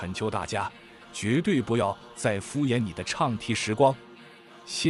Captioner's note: chanting